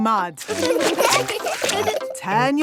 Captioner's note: laughing